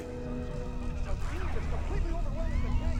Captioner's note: news playing in the background